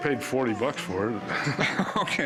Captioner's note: laughing